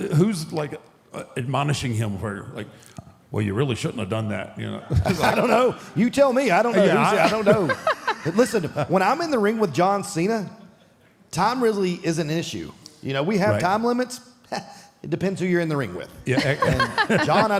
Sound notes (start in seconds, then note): 6.8 Michelle laughs; 16.3 Michelle and Mark laughs